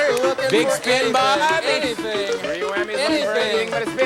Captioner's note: aH@udiencH@e applH@auding